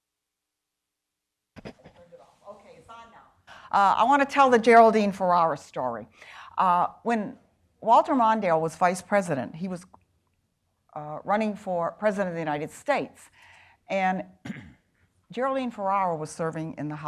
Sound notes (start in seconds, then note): 3.1 speaking faintly